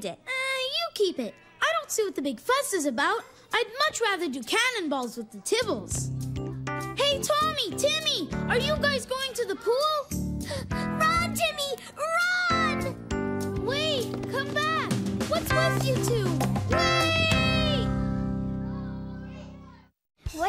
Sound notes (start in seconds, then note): 10.4 gasps